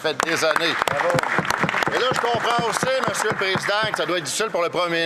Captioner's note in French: applaudissements; voix de l'interprète